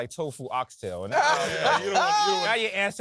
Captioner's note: laughs